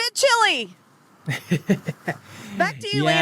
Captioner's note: laughs